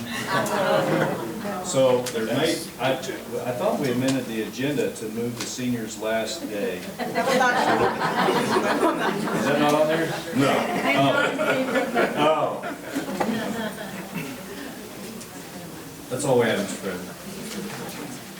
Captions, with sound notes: 27. (audience mumbling) So I thought we amended the agenda to move the seniors last day. (audience laughing) Is that not on there? - No, - Oh oh, that's all we have Mr. President.